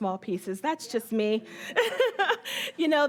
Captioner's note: laughing